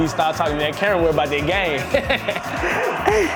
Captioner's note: laughing